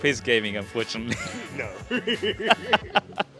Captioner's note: laughing